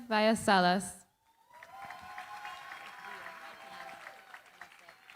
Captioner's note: cheering, applause